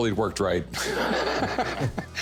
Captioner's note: laughs